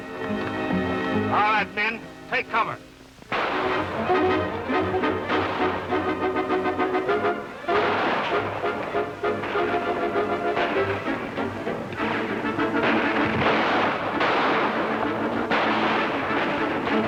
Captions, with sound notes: - All right men, take cover. (guns firing) (intense music)